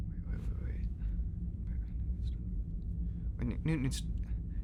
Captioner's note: speaks quietly